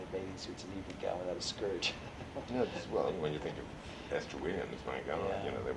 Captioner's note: laughs